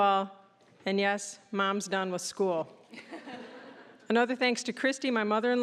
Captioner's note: audience laughing